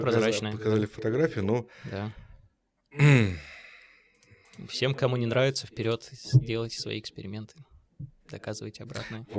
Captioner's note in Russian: вздыхает